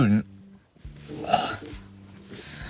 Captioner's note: gag